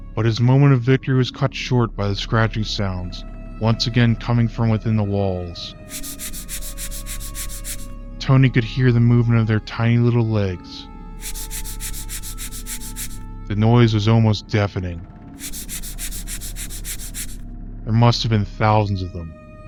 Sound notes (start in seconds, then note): 5.9 scratch scratch scratch scratch; 11.2 scratch scratch scratch scratch; 15.4 scratch scratch scratch scratch